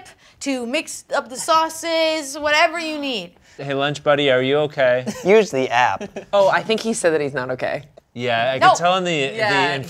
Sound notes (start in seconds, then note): 5.9 laughs